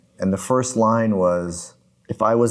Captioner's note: none